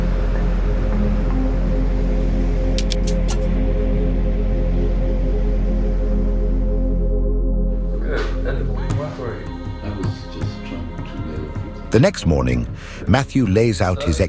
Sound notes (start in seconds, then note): 2.8 logo ticks; 8.2 speaking faintly